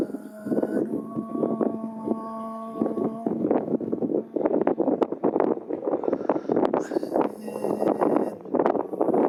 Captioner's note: chanting